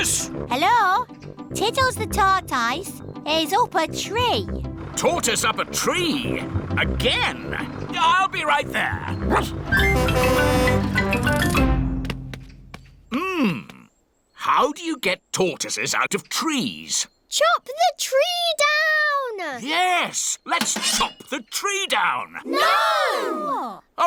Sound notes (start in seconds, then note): 9.2 barks; 9.6 horn honking